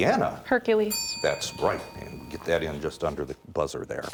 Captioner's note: bell dings